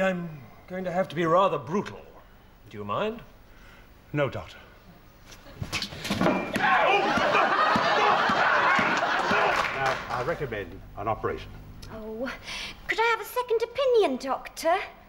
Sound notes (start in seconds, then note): 6.7 audience laughs